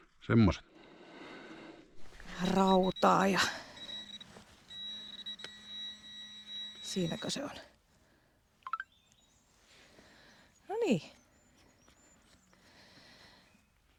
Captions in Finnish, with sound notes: semmoset rautaa. Ja [soittokello] siinäkö se on? No niin.